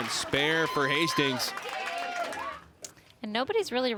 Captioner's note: crowd cheers and applauds